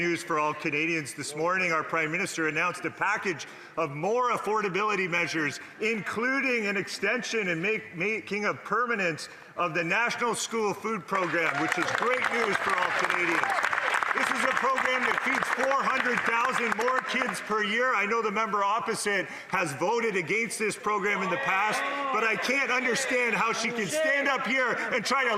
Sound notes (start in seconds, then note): 17.2 applause